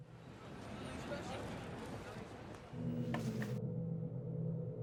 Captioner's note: people chattering